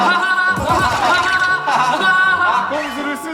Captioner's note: hahahaha